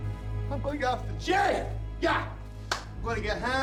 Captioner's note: claps hands